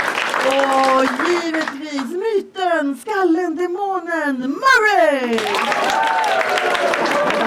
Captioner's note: all clap and cheer; audience claps and cheers; audience claps and laughs